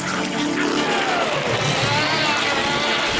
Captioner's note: buzz!